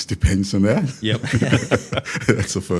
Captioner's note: participants laugh